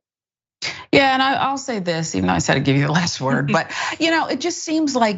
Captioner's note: laugh